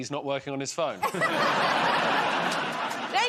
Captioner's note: laughter